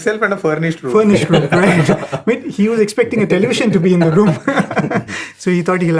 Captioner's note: laughter